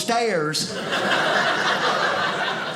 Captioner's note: audience laughing